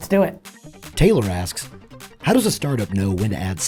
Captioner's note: voiceover